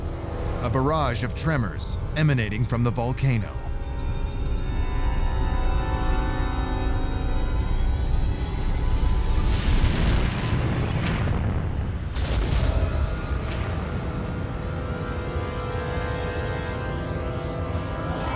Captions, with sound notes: a barrage of tremors emanating from the volcano. [music tension intensifies] [deep rumble] [suspenseful music]